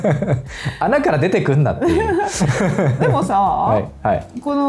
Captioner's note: laughs